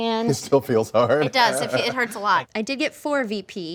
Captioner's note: laughs